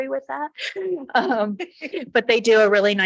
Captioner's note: people chuckle